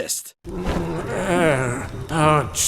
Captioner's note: Rudy groaning; Rudy Voiceover